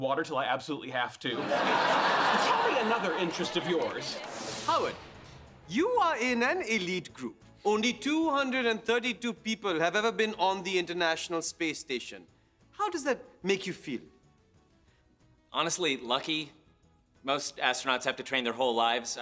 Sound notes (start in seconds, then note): 1.3 audience laughing